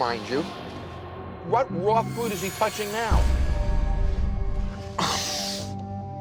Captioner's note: groans